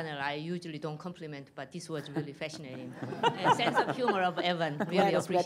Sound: laughter

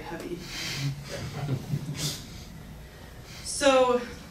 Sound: laughing

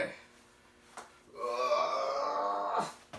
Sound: groans

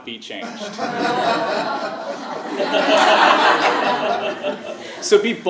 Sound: laugh

